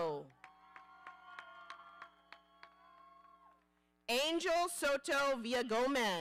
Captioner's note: audience cheering